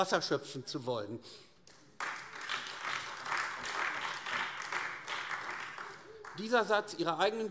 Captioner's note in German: Beifall AfD